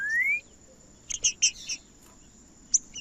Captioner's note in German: trinca ferro cantando